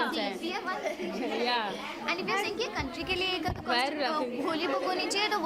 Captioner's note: speaks in foreign language